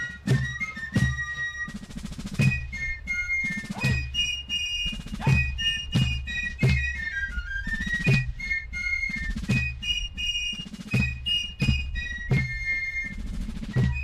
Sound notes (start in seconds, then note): 1.0 soldier shouting commands